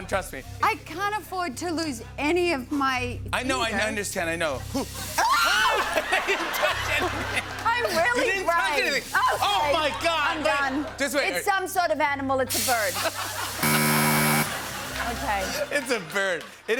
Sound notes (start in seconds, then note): 4.7 laughter; 12.8 laughter; 13.6 buzzer